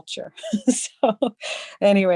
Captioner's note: laughing